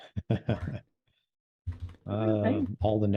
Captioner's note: laughs